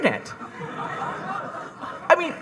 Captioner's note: audience laughing